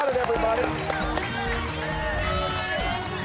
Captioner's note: cheers and applause